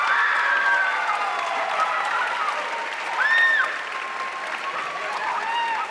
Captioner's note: audience cheering and applauding